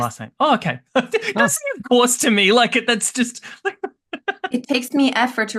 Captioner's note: laughs